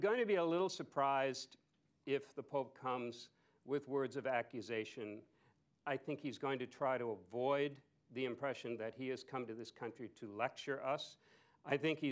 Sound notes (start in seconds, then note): none